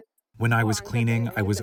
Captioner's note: through translator